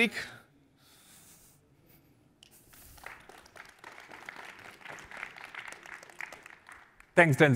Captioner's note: applause